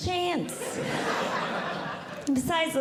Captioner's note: audience Laughing